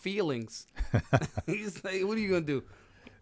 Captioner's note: laughing